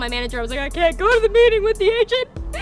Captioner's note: crying voice